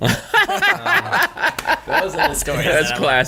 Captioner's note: all laugh